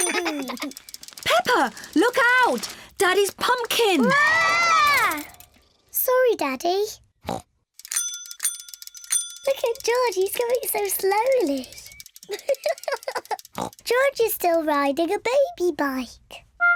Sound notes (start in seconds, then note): 7.2 snorts; 7.8 bicycle bell ringing; 12.2 laughs, snorts